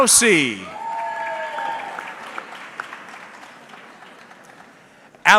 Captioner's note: audience clapping